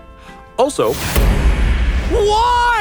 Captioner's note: explosion